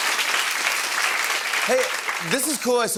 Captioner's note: applause